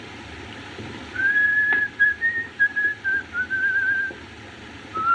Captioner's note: whistling